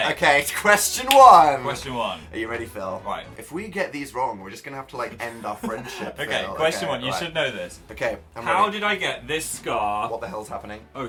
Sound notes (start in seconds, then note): 5.3 laughing